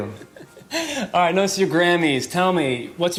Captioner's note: laughing